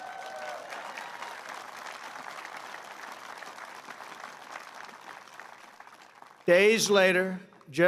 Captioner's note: applause